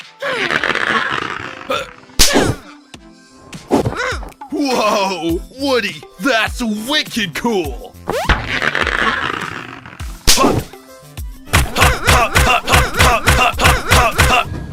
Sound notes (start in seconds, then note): 0.3 stretching sound; 2.2 whacking sound; 8.0 jumping sound; 11.5 Looping sound of Blocky and Woody jumping, and the gloves smacking up and down; 11.5 whacking sound